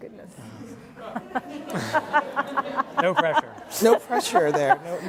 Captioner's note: laugh